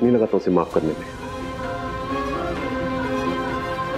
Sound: emotional vocalising

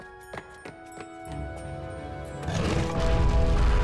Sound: rumbling

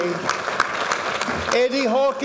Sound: audience applauding

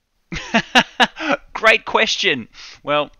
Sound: laughing

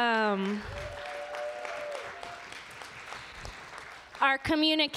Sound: applause

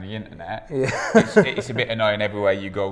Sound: laughs

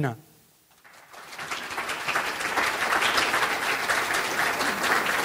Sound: audience applauding

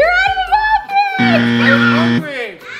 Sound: buzzer sounds

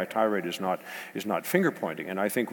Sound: none

